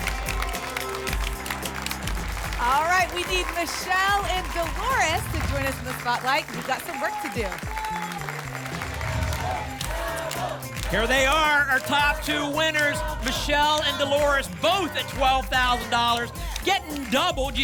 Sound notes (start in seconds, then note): 0.1 applause and cheering; 9.1 audience chanting "double"